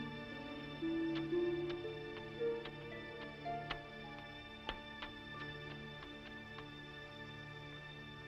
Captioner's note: ominous music; footsteps up stairs; ominous music